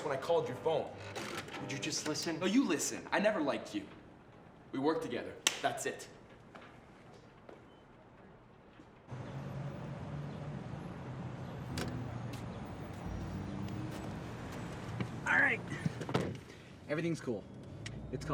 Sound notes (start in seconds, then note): 9.2 birds chirping; 9.4 traffic humming; 11.9 phone thuds